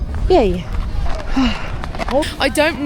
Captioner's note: sighs